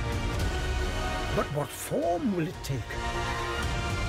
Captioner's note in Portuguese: narração em inglês